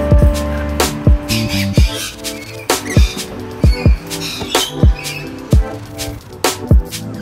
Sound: birds screeching

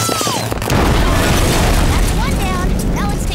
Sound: explosion

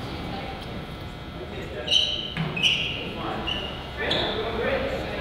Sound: floor squeaks

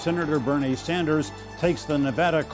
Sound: applause

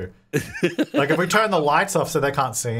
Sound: laughing

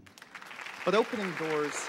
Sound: applause

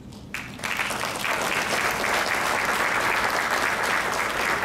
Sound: crowd clapping

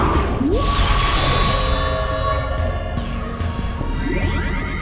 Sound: cloud creature roars; magical whirring

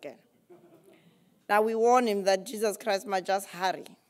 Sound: laugh

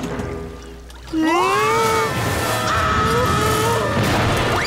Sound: screaming

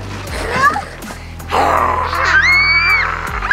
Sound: growling and screaming

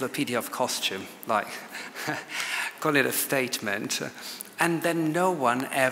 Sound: laughs

